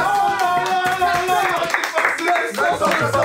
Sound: applauding

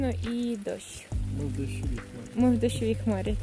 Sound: laugh

